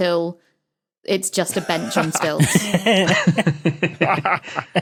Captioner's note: guys laughing